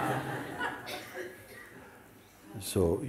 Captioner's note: laughter